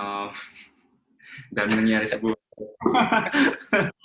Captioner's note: laughs